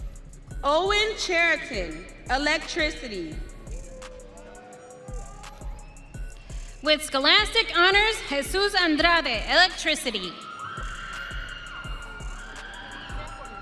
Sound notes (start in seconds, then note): 5.9 audience cheering